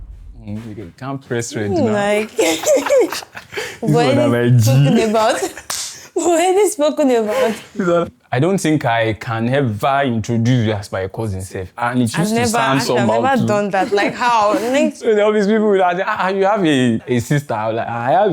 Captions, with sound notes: Hmm, you can't press red It's more like... [laughs] [laughs] -You are my G. -We always speak about it. We have already spoken about it. I don't think I can ever introduce you as my cousin. And it use to sound somehow too -I have never done that. that. Like, how? So when people be like, "Ah- ah, you have a, a sister?" I'll be like, "I have a